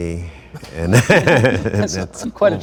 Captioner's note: everyone laughs